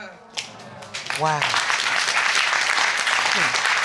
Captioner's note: audience applauding